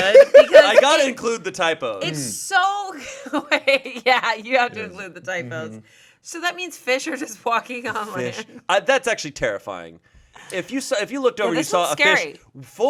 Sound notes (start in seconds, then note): 3.2 laughs